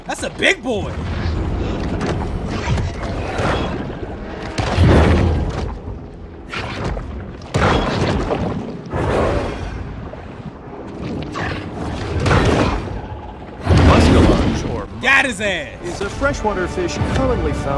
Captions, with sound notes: That's a big boy. (growling) (water swooshing) (explosion) Got his ass. - [Voiceover] Is a fresh water fish commonly found through